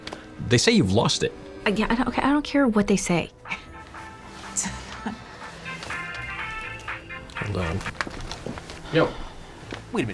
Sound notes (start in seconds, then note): 3.3 dru scoffs; 5.1 cell phone rings